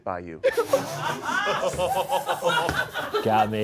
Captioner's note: all laughing